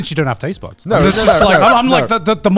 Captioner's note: laughing